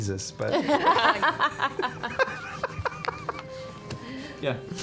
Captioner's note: laughter